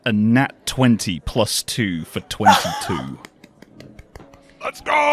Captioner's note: gasps; claps